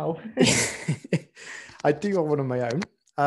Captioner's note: laughs